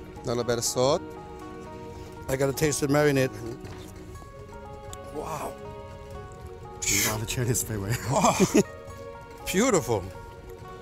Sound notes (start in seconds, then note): 5.4 laughs